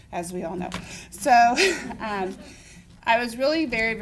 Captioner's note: laughter